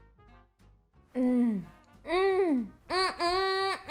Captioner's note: moaning